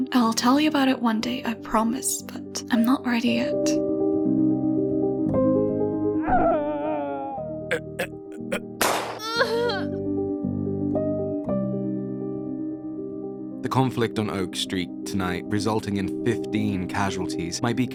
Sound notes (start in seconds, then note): 6.2 GREG screaming; 7.7 GREG choking; 8.8 gunshot; 9.4 RECEPTIONIST grunts